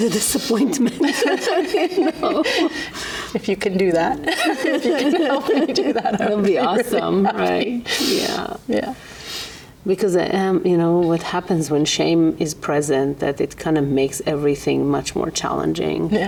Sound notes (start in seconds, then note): 0.6 client and therapist laugh; 4.2 therapist laughs